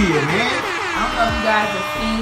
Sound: virtual sirens blowing

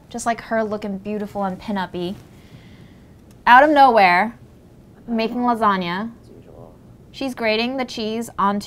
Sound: none

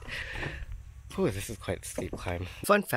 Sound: exhales

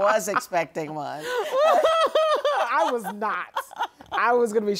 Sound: laughter

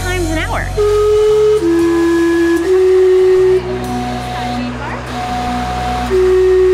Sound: steam whistle

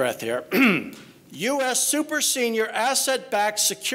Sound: clears throat

